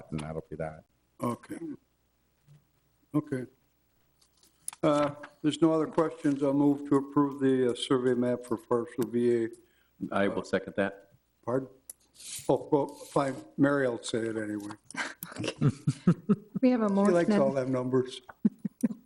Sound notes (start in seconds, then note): 14.9 chuckles